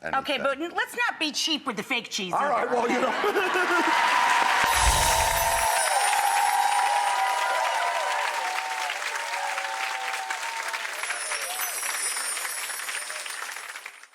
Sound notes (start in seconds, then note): 2.8 laughing; 4.3 audience applauding and cheering